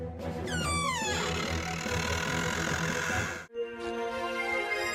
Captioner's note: doorcreaking.mp3